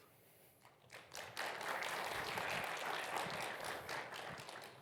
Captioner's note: crowd clapping